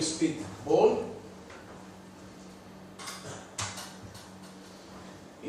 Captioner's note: none